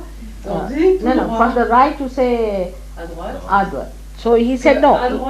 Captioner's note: laughter